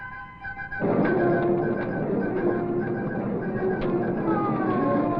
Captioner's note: fire roaring; siren wailing